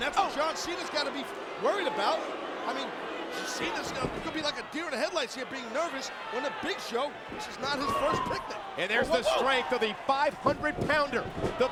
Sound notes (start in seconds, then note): 7.8 footsteps plodding